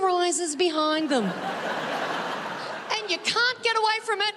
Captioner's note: audience laughing